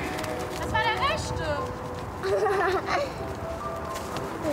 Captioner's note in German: lacht